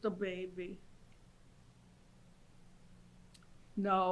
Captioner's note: pauses for 3 seconds